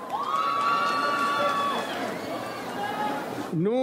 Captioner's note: audience cheers